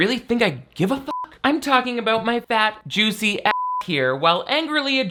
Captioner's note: beep; beep